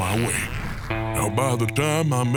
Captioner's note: flatulent sounds